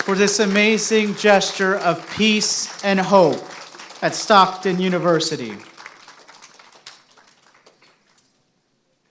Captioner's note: applause